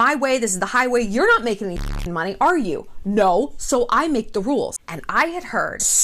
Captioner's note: beep